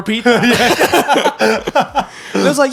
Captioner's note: all laughing